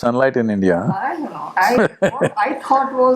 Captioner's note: laughs